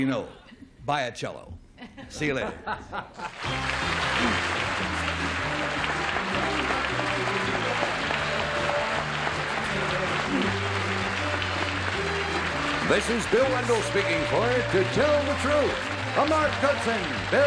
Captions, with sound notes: So I don't really know. Buy a cello. See you later. [theme music] [applause] - This is Bill Wendell speaking for "To Tell the Truth,"